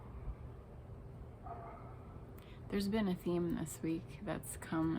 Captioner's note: dog barking